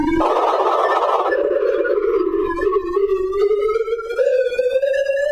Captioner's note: ascending electronic beeping